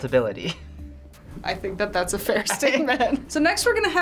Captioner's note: chuckles